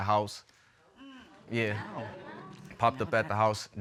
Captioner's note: audience exclaims